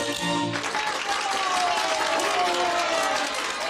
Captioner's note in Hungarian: fennkölt zenei lezárás; tapsvihar, ováció